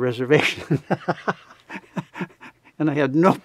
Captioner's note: laughs